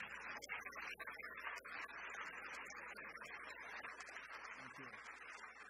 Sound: audience applause

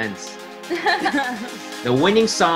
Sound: laughing

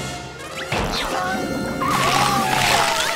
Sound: siren blaring

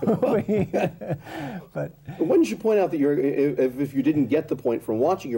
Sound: laughter

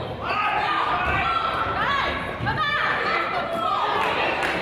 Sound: coaches yell

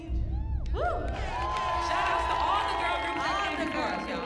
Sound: audience cheering

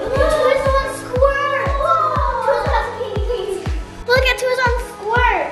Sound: kids talking

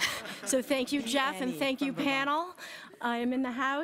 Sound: laughter

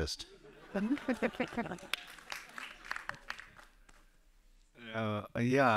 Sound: everyone laughing and clapping lightly

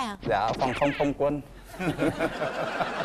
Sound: laughing

